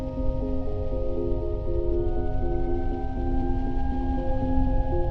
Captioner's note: otherworldly tones